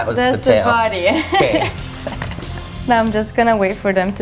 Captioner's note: laugh